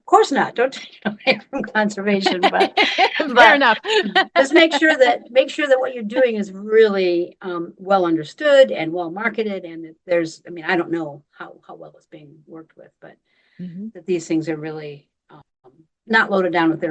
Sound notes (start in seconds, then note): 2.2 laughing